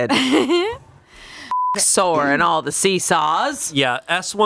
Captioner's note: beep